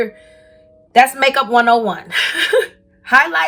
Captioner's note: giggling